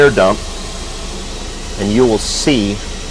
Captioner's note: air rushing